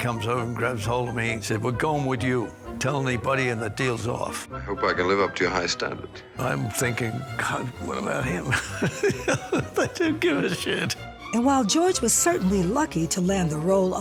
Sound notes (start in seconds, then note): 9.7 chuckles